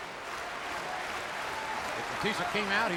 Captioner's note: crowd clapping